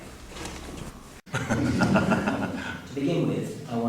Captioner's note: laughing